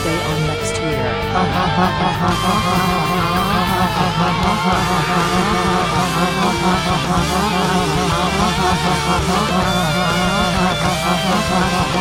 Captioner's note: laughs